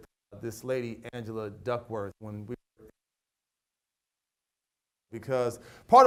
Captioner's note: audio cuts